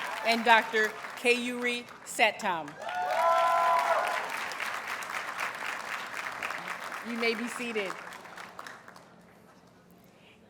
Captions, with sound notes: And Dr. Keyuree Satam. [Audience cheers and applauds] You may be seated.